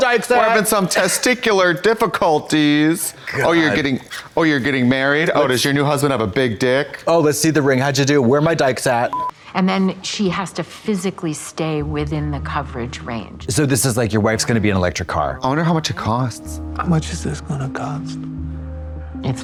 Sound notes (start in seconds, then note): 9.1 colors beeping